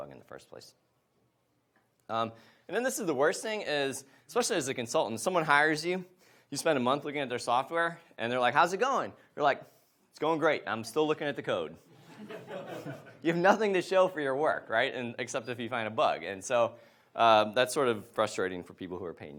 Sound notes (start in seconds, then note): 12.0 audience laughs